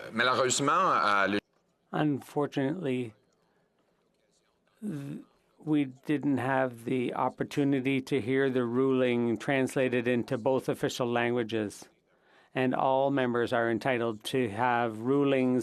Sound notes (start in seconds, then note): 4.4 speaking in French